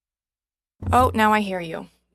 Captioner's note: speaking French